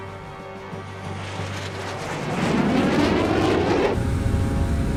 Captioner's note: aircraft whirring; tense music